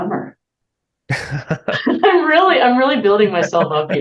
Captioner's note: both laughing